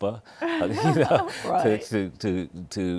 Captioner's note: laughs